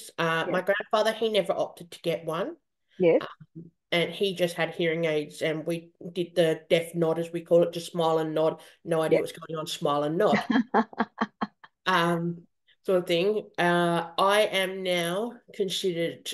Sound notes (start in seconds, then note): 10.3 is laughing